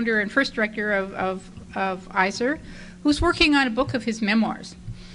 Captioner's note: none